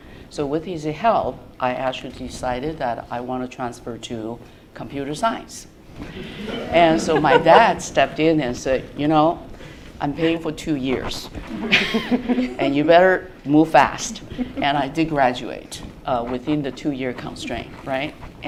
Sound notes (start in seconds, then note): 6.1 laughter